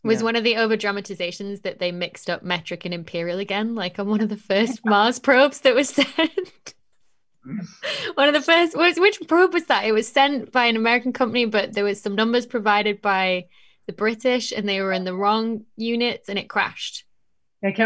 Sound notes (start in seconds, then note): 7.5 laughs